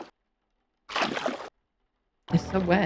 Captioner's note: squelch